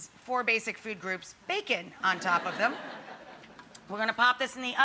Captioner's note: audience laughing